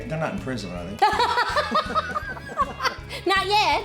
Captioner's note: laughing